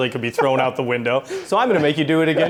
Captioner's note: laughing